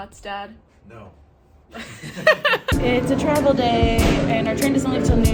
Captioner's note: laughing